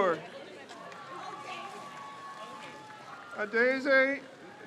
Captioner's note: crowd cheers